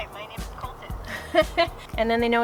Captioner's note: laughing